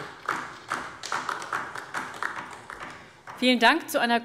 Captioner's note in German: Beifall DIE LINKE